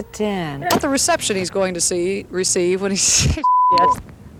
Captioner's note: beep